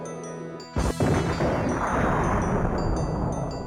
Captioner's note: kaboom